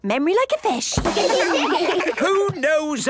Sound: children laugh

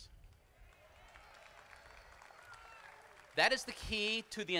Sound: crowd applauding

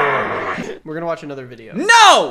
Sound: grunts loudly

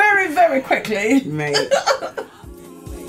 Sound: laugh; laughs

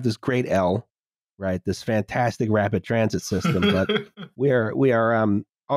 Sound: laughs

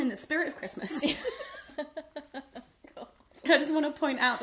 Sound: laughter

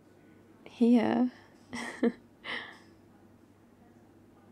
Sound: laughs

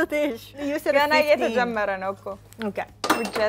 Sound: speaking Amharic

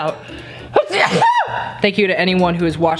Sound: sneezing

